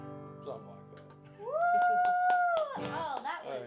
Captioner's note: applauding